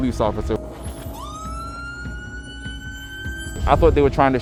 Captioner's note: siren wailing